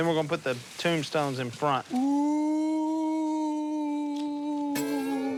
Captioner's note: ghost sounds